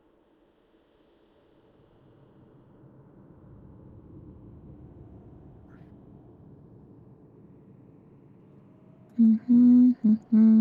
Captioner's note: humming